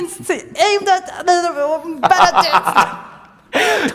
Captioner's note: stammering; laughs